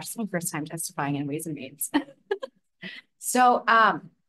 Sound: chuckles

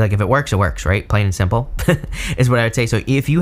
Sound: laughs

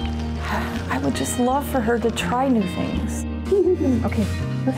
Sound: sighs

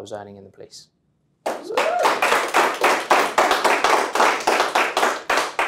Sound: audience cheering

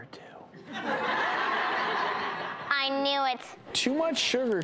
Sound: laughing

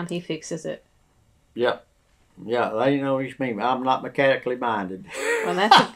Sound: laughter

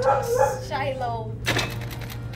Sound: dog barks

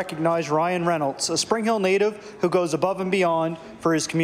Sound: applause

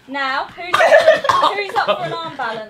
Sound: Ethan laughing

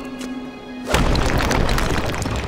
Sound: smashing

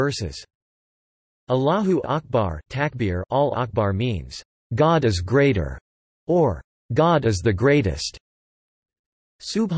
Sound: takbir

